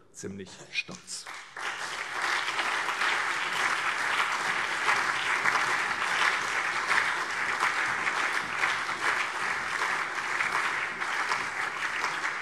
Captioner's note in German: Beifall SPD, BÜNDNIS 90/DIE GRÜNEN, Freie Demokraten und DIE LINKE